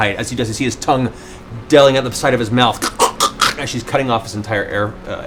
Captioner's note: strangling noises